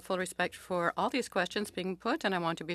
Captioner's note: speaking French